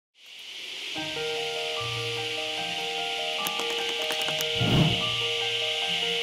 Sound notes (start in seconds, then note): 0.1 cicadas buzzing; 1.0 light, fun music